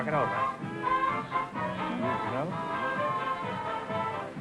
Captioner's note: whispering